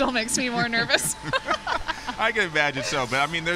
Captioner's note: laughter